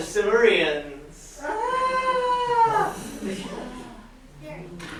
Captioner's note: audience member screaming